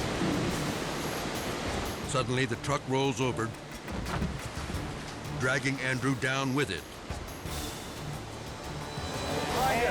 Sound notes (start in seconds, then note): 1.0 dramatic music; 1.0 water rushing; 4.1 dramatic music; 7.7 edgy dramatic music